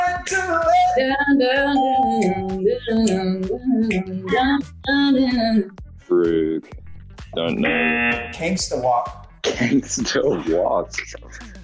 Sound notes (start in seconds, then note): 1.6 hums; 7.6 buzzer